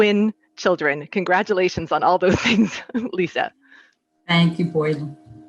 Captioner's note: chuckles